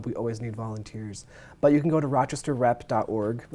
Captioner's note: none